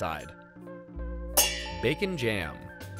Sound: pans clanging

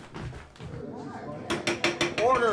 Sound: crowd chatter; hammering gavel

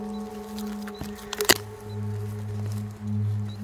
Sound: wood cracking

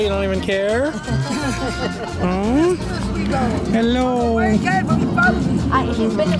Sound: laughter

